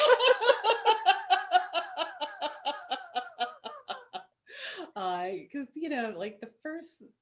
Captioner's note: laughter